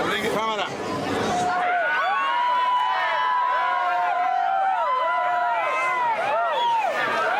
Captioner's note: Gente Gritando